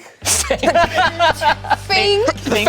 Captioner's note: group laughs